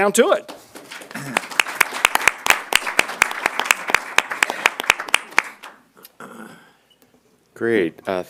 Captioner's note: applause